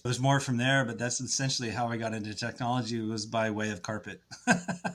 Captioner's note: laughs